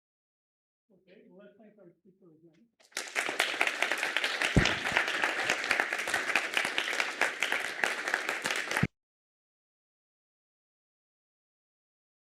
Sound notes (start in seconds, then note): 2.8 applause